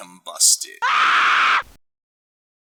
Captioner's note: scream